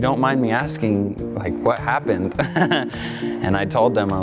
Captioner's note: laughs